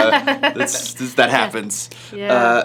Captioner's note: laughs